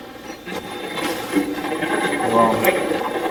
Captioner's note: Steve's Box chatters